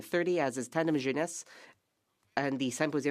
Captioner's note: speaking French